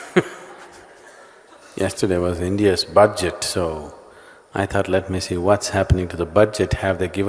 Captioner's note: laughs